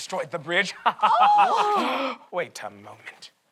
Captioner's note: collective gasp